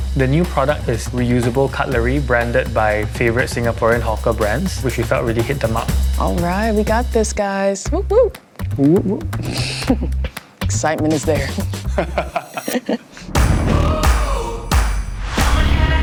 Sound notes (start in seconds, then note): 9.8 chuckles; 11.6 laughs; 13.0 upbeat music